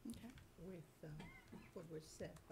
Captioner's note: coughing